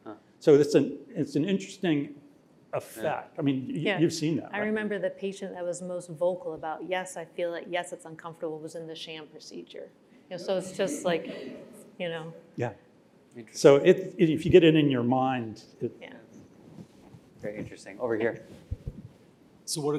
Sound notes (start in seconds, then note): 10.5 laughter